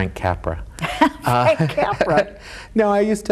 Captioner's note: laughs